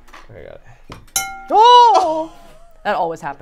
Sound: glass dinging

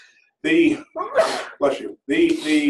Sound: sneeze

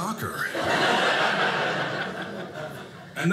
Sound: audience laughing

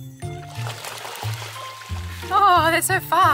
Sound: water splashes

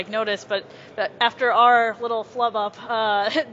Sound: laughs

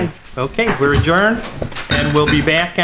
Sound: gavel knocking

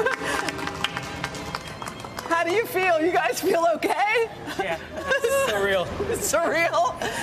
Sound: applause

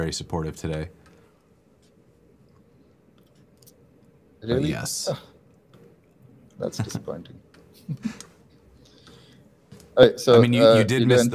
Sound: laughter

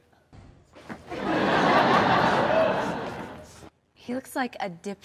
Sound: audience laughs

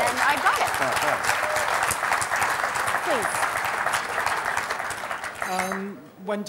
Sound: applause

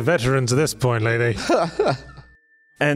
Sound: laughs

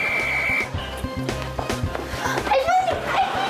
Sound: whistle blows

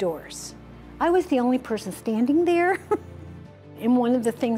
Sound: laughs

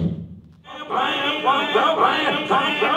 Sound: low humming noise; echoing

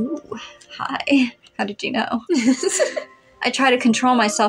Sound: giggle

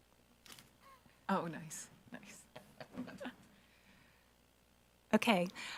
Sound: chuckles

